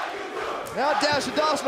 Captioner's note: fans chanting